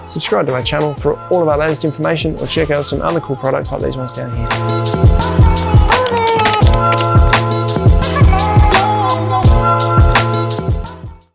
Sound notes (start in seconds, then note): 5.8 keystrokes tapping; 7.9 relaxing music